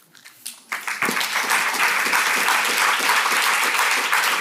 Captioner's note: audience clapping